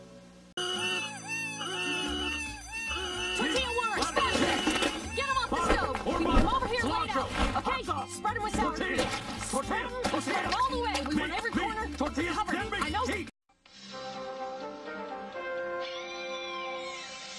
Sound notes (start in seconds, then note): 0.6 cat mewing; 3.7 various character voices; 13.7 retro music playing